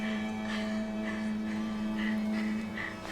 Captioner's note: ragged breathing